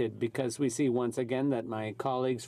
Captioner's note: speaking French